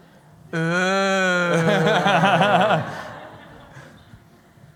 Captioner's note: laughter